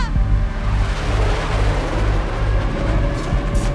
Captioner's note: planes whooshing